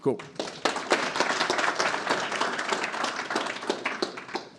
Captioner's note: audience applauding